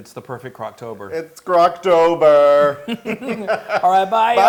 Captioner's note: laugh